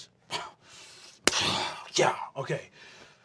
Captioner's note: exhales